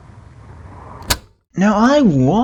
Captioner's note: cassette tape pauses